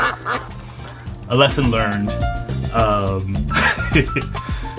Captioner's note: laughs; duck quacking; laughs